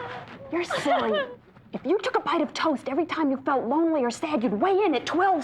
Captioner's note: 1st orphan cries; crying stops